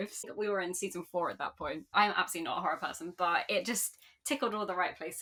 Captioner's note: none